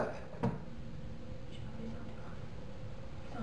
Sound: whispers

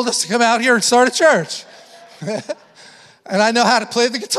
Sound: chuckles

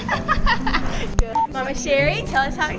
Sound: laughing

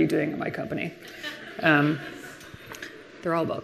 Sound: laughter from the audience

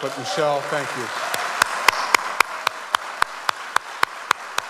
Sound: audience applauds

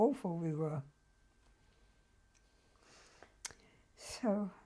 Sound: pauses for 3 seconds

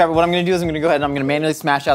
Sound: none

